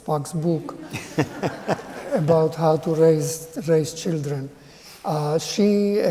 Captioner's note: laughter